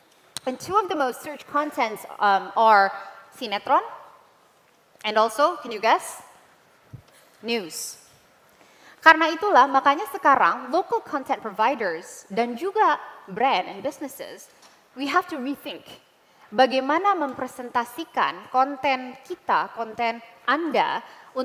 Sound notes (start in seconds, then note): 3.7 non-english; 8.8 non-english speech; 12.1 non-english; 18.9 non-english speech